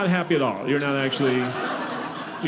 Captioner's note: audience laughing